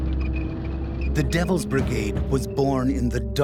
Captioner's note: voiceover